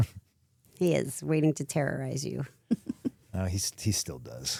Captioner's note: chuckles